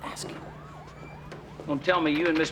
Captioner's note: whispering